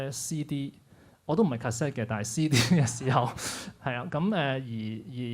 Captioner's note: laughs